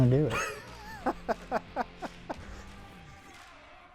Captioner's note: laughs